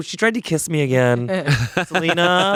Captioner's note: laughing